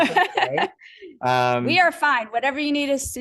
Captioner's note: laughter